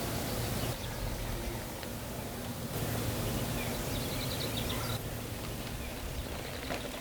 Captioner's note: wind blowing and birds chirping